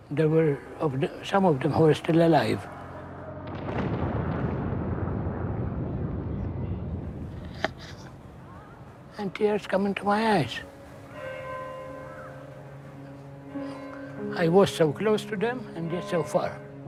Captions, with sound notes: There were some of them who were still alive. (bomb explodes) And tears come into my eyes. I was so close to them. And yet so far.